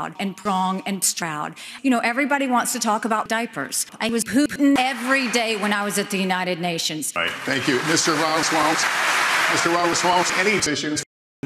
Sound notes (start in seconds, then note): 8.8 applause